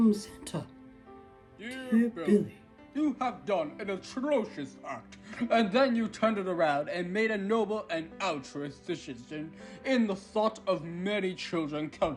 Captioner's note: Santa Voice